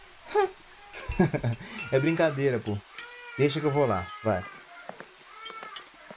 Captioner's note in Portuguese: FERNANDO - Rindo